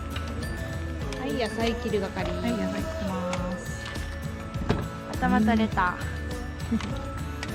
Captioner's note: laughs